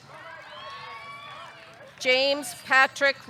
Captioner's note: audience cheering